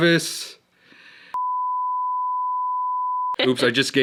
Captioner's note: beep